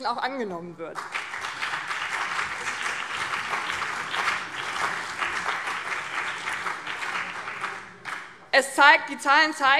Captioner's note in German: Beifall BÜNDNIS 90/DIE GRÜNEN und CDU